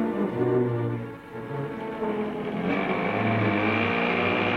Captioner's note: engine roaring